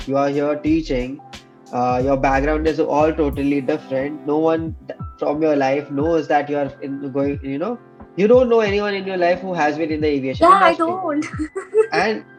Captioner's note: laughs